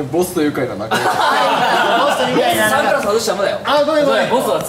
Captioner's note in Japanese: 笑い